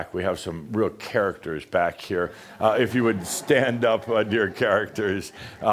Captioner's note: some chuckles